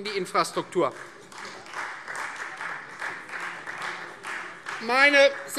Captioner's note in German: Beifall Freie Demokraten